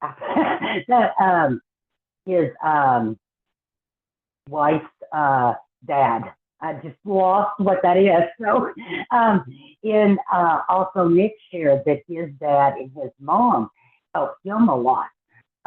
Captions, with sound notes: his wife's dad. I just lost what that is. (Laughs) And also Nick shared that his dad and his mom helped him a lot.